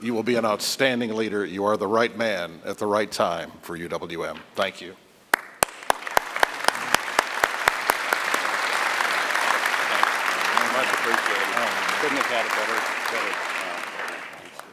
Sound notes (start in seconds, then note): 5.3 applause